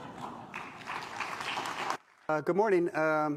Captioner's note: applause